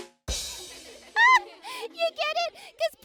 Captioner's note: drum symbols; laughs